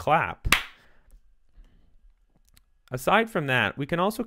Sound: clap

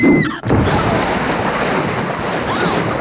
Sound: screams

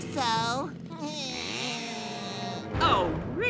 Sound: laughing

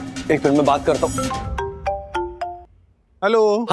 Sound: phone rings

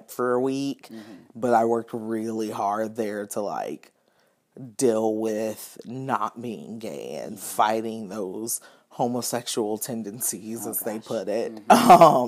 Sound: laughing

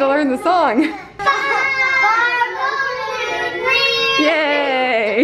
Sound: kids yelling

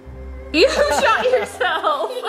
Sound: laughing

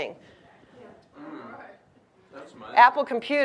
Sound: audience agreeing

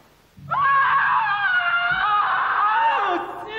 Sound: screams

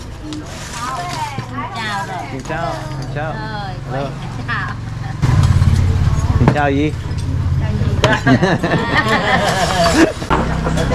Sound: laughing

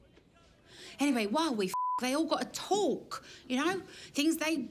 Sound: beep

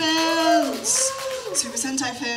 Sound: cheer

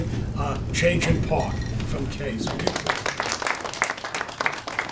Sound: applause drowns out speech

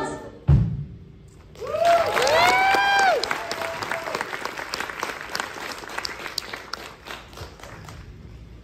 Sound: applause

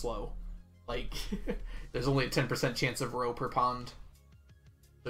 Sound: chuckles

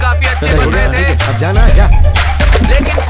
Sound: chuckling

